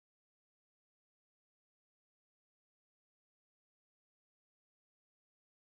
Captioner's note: none